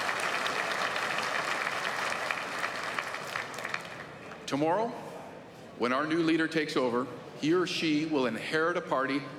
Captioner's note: applause